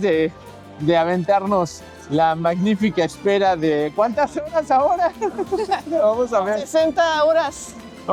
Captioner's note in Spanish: risas